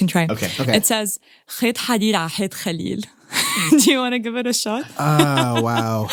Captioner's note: foreign language 00:03:27